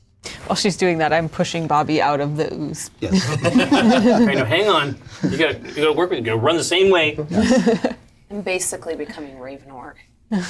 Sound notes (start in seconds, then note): 3.0 all laugh